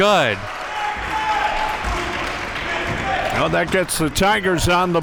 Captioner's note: audience applauding and cheering